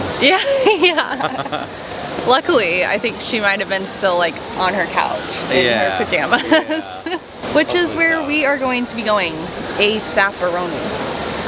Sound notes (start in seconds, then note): 0.3 laughter